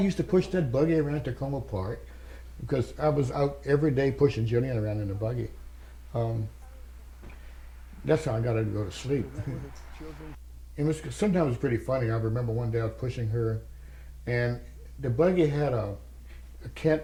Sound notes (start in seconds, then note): 7.9 laugh